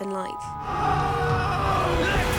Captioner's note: screaming